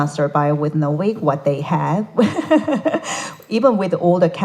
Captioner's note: laughs